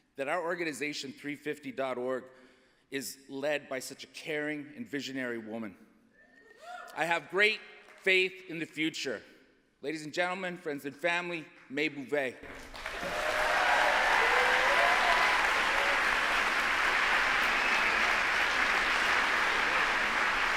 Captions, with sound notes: that our organization, 350.org, is led by such a caring and visionary woman. [CHEERS] I have great faith in the future. Ladies and gentlemen, friends and family, May Boeve. [APPLAUSE]